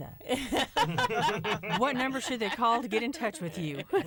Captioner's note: laughter